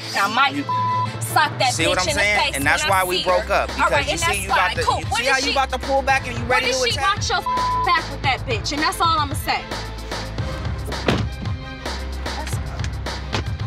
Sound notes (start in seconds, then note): 10.8 car door slammed; 11.9 dramatic music